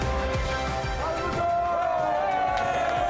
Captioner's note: cheering, applause